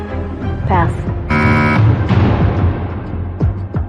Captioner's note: buzzer sounds